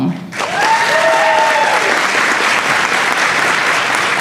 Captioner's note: applause